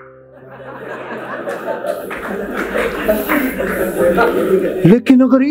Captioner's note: laughing